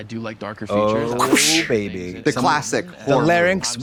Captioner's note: Trixie whips